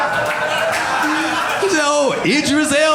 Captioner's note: audience laughing